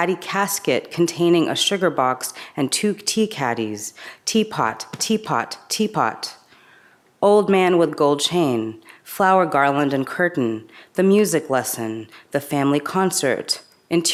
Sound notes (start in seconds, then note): none